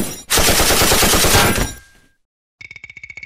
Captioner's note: shooting; impact